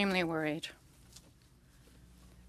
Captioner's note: speaking French